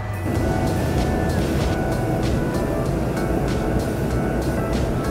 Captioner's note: airplane taking off